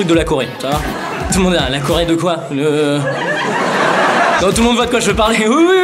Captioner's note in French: Rires